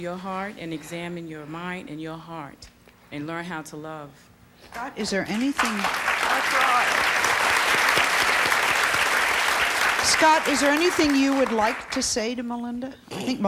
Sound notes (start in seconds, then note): 5.0 audience applause